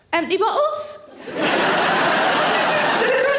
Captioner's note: audience laughing